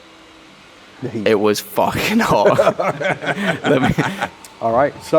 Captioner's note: laughs